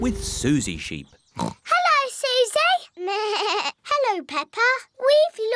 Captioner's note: oinks; bleats